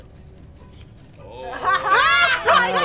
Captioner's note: attendant groans; interviewee in red dress laughs